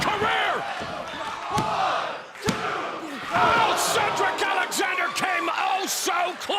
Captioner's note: applause